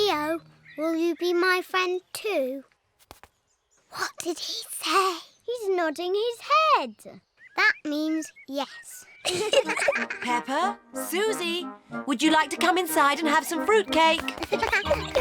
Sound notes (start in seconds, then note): 3.9 whispering; 9.2 both giggle